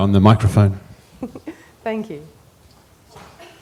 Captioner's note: laughter